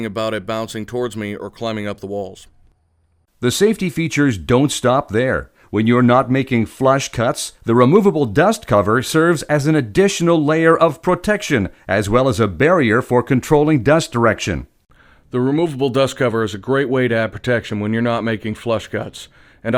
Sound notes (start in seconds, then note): 3.5 voiceover